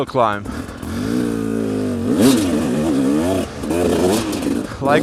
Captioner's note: engine revving